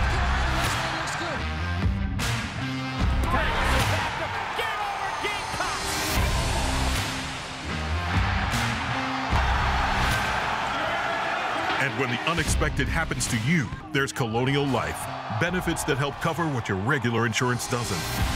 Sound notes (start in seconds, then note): 0.0 cheering; 5.7 cheering; 6.2 rock music; 7.7 cheering; 11.9 voiceover